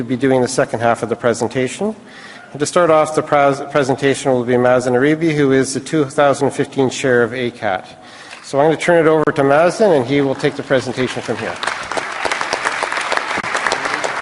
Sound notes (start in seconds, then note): 10.2 applause